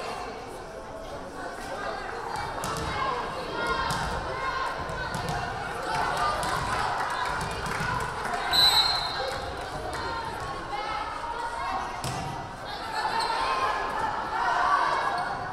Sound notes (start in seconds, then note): 3.1 audience members calling out; 8.5 whistle blaring